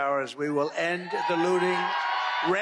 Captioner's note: cheering